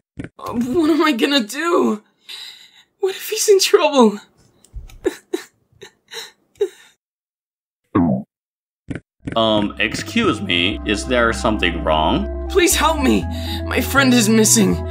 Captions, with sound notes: Oh, what am I gonna do?! What if he's in trouble?! (Sobbing) Um, excuse me. Is there something wrong? Please help me! My friend is missing!